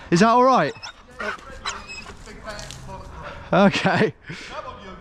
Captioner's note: dog whining